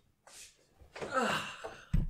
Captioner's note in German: Erleichtertes Seufzen